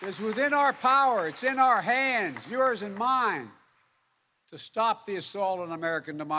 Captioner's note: applause